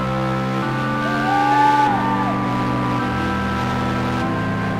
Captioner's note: audience cheering